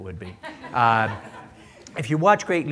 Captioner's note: laughter